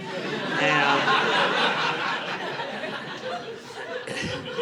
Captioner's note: audience laughing